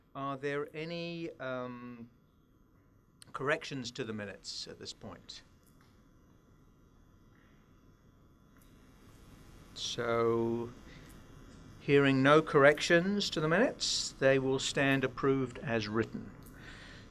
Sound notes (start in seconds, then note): 5.8 silence